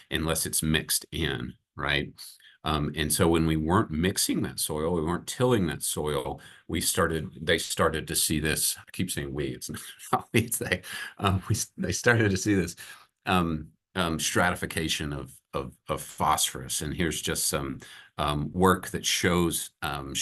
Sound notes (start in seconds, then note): 9.7 chuckles